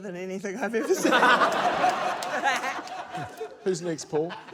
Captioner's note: laughter; laughs